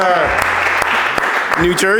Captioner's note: audience Applauding